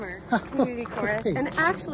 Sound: laughs

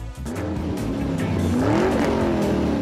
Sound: engine roars louder

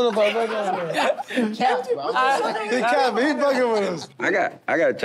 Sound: laughter

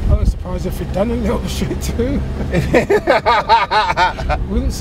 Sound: they laugh

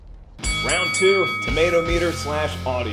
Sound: bell ringing

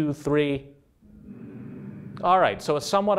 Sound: humming

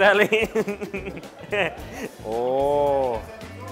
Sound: laughing

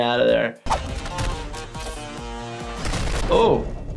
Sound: active music; body thumps

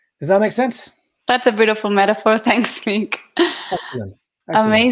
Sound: chuckling

